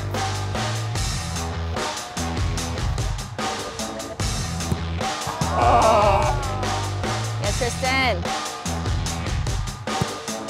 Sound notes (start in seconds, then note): 5.2 group groans; 5.5 buzz